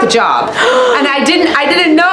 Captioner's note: Leslie gasps